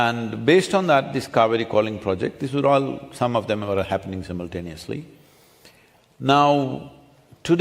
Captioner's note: none